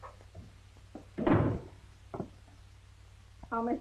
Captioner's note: door slams